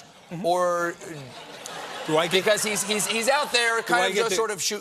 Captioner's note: laughter